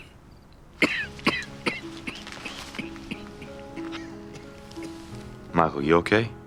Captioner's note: coughing